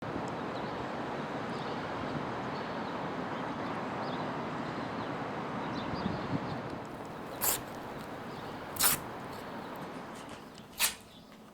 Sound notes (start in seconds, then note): 5.2 air whooshes; 5.2 birds chirps; 8.7 paper rips